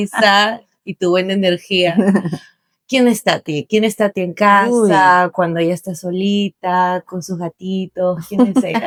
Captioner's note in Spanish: risas; risas